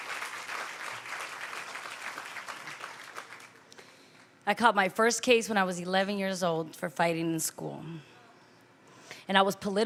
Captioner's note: applause